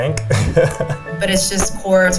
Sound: man laughs

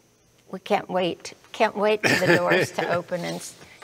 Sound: laughs

